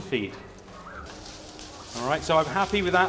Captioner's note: sizzling